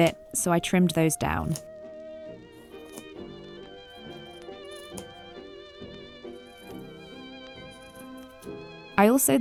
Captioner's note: scissors snipping